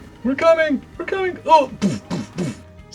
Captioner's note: imitates thudding